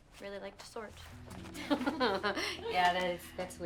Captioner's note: Candace and Allie laughing